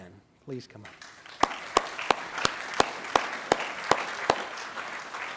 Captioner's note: attendees applauding